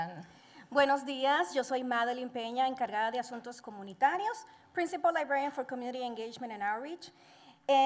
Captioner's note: Spanish language